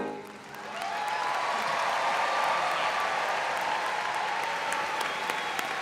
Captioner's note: audience applauding and cheering